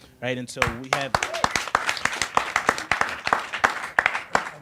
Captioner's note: audience applauds